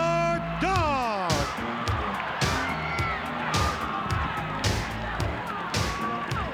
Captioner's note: upbeat funk music; crowd cheers